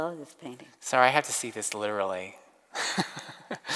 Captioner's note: laughs